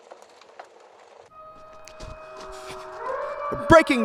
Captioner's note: sirens blaring in the background